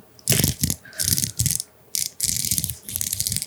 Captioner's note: rattle